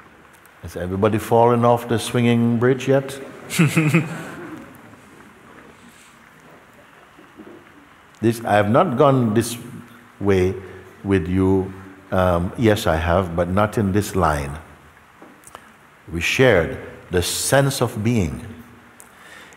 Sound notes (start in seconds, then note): 3.5 laughter